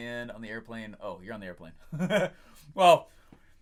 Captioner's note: laughs